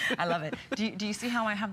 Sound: electronic voice

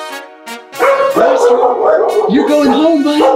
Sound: dog barking

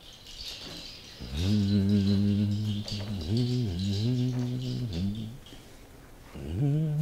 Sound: humming

